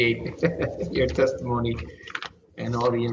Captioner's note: laughter